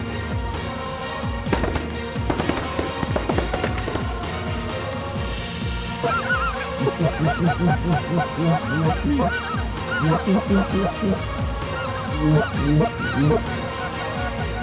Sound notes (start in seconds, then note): 1.5 gun shots; 6.0 goose calls